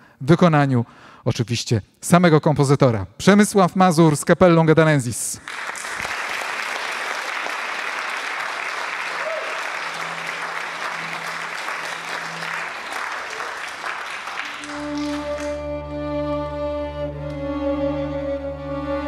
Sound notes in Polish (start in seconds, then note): 5.3 oklaski; 15.6 muzyka instrumentalna